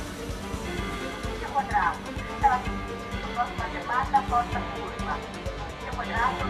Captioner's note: automated announcments